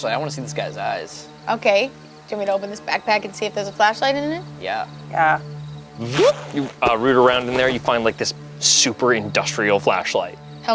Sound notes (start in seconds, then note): 6.0 imitates zipper zipping